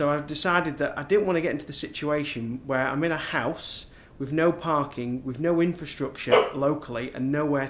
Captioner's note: woof